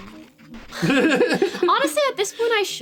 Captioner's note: laughs